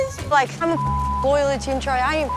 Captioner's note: beep